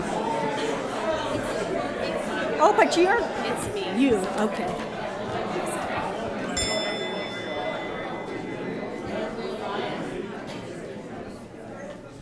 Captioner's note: bell chiming